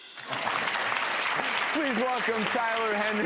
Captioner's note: clapping